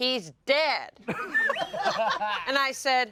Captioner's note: everyone laughs